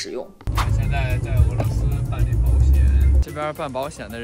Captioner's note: car